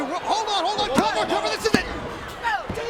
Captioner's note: mat slapping